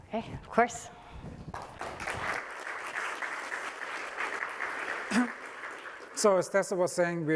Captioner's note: applause